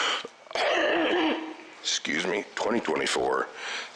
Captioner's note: coughs